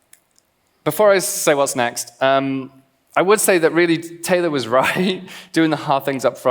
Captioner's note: laughs